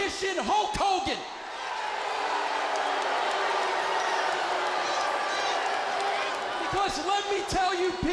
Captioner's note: crowd cheering